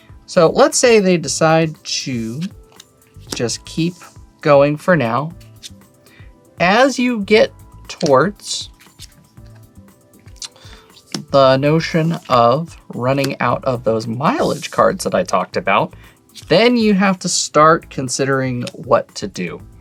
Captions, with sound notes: So let's say they decide to just keep going for now. As you get towards (card slaps) the notion of running out of those mileage cards that I talked about, then you have to start considering what to do.